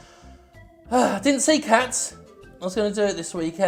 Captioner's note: sighs heavily